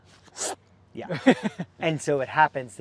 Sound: laughing

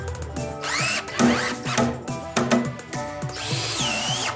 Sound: screwdriver whirls

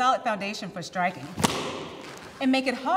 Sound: board snaps

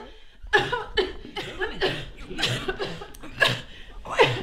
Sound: coughs; mother coughs

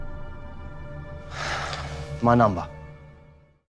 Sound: sighs

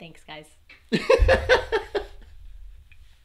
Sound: laughing

